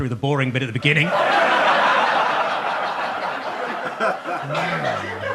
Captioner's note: audience laughs